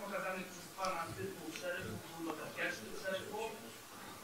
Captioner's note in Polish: szum